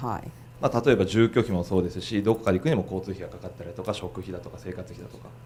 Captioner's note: speaking foreign language